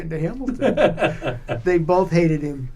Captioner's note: laughter